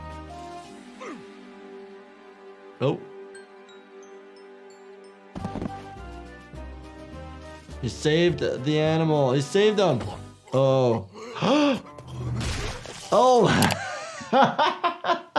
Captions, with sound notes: - Oh. He saved the animal. He saved him. Oh (doctor gasps). Oh (doctor laughs).